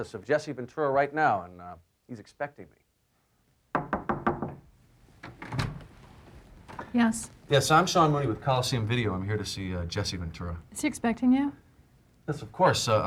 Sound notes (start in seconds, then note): 3.7 knocking on door